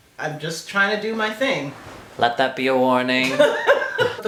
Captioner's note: laugh